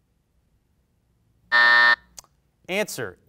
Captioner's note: alarm buzzes